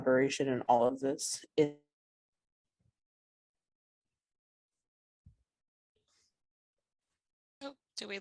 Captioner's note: audio cuts out